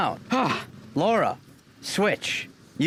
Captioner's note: sigh